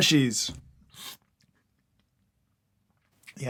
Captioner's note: small slurp